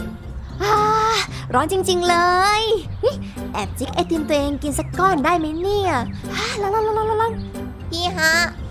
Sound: sighs

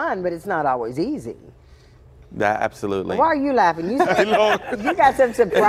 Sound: laughter

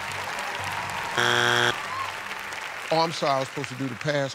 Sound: applause; buzzer

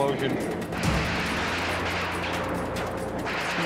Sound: gunshots

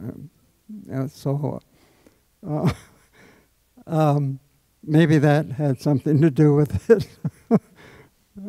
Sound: laughs

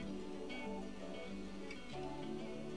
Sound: none

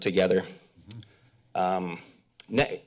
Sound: smacks lips

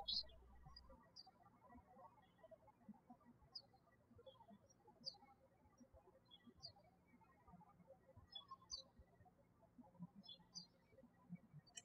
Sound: birds chirping

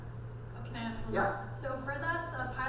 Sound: voiceover

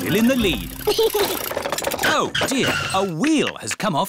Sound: chuckles

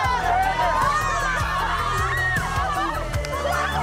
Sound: cheering

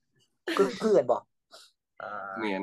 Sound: speaking in Isaan dialect

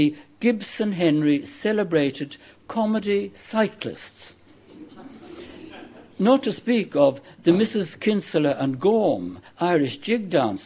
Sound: laughter

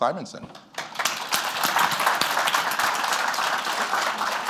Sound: applause

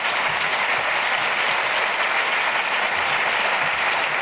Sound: audience applauses

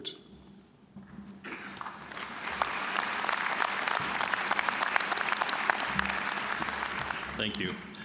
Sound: applause

